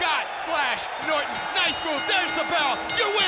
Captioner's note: bell rings